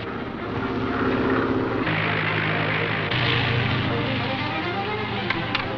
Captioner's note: plane engine roaring